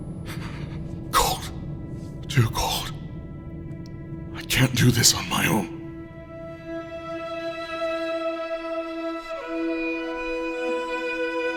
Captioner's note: panting